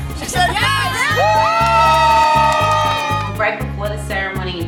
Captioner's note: everyone Hollering